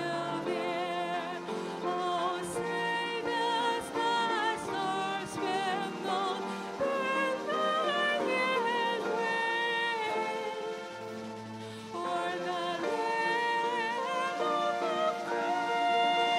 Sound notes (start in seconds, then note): none